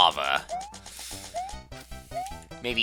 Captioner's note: breathing